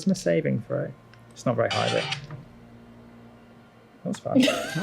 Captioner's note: loud phone noise